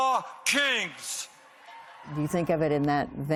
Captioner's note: cheering